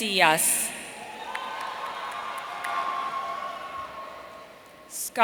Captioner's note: audience cheering